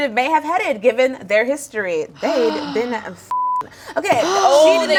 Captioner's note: beep